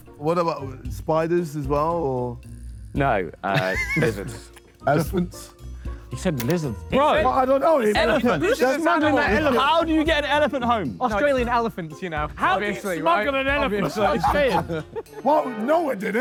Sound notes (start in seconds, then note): 13.7 JJ laughs